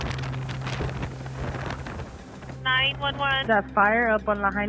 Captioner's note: wind blustering